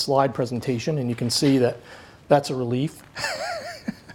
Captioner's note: laughs